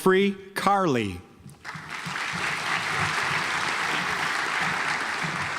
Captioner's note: audience applauds